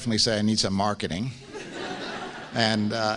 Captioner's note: laughs